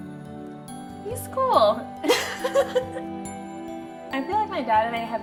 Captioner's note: both laughs